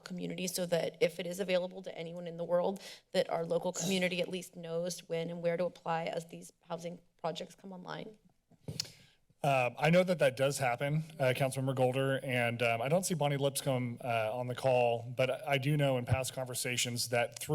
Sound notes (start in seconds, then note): 9.1 tongue clicks; 9.7 thuds